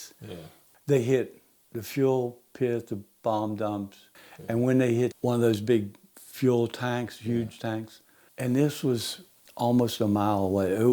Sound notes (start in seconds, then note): none